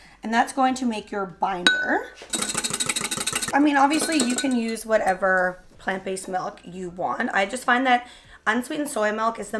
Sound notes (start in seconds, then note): 2.2 whisk clinking